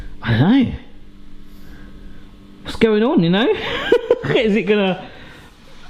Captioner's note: laughs